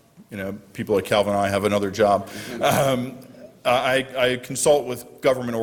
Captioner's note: laughter